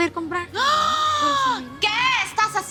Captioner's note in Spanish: Grito ahogado